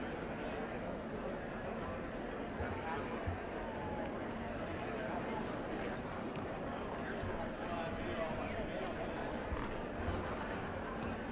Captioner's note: indistinct chatter